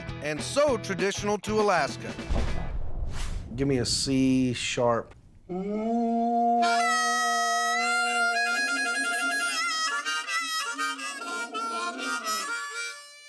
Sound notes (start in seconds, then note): 5.4 horn sound; 6.5 harmonica playing